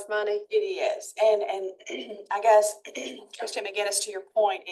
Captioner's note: clears throat